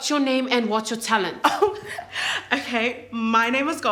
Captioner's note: chuckles